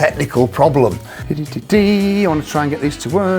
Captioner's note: vocalizing